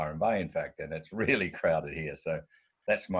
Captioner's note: chuckles